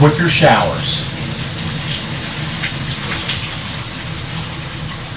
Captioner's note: rain pattering